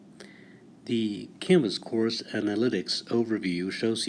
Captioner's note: voiceover